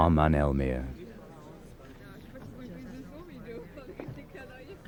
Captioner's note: people chattering